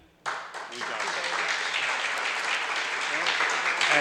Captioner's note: audience applauds